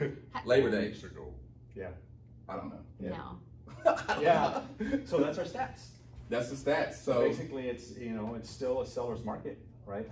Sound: laughing

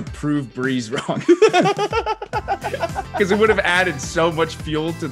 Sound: laugh

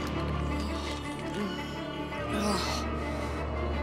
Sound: groaning

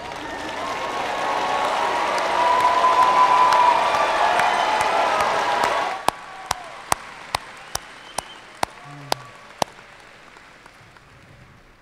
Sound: cheers and applause

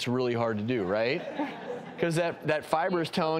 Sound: audience laughs

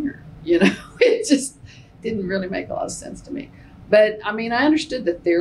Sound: laughs

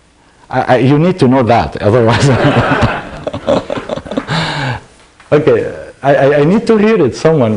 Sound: laughter

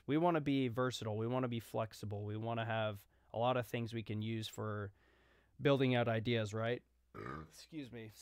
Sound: burp

